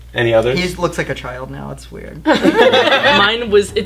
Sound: laughter

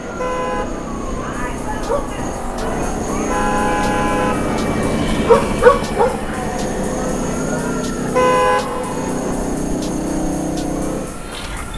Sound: car horn honks; city noises

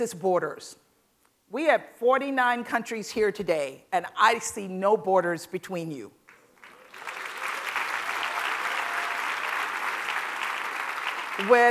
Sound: applause

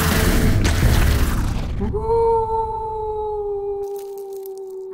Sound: splash; wolf howls

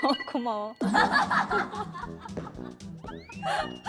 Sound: hh?

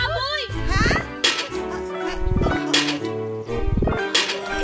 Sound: thuds

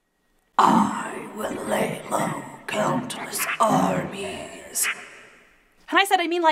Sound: scary voice

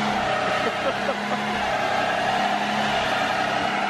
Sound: laughter

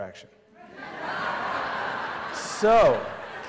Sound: laughter

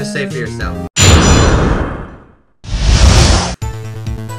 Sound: dramatic boom; tense music

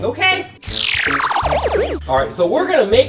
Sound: laser sound

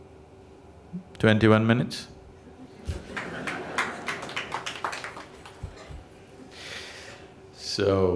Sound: laughs; applause

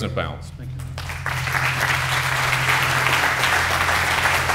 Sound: applause

